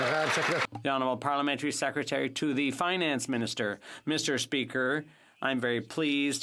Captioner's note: some Applause